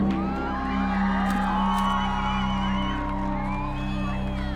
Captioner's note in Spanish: Gritos y silbidos